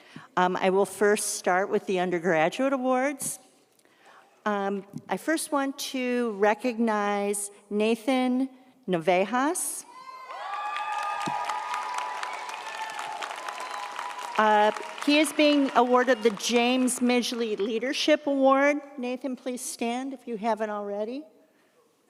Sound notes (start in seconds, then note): 10.0 audience cheers; 10.3 audience applauds